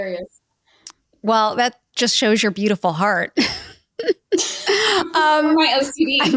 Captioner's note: laughs